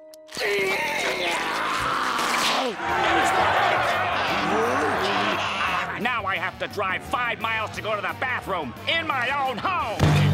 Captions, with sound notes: [groaning] [clamoring] Get him! And now I have to drive five miles to go to the bathroom in my own home!